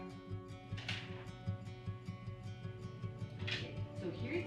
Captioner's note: paper rustling